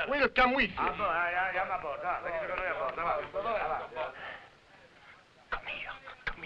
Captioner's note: officers conversing in foreign language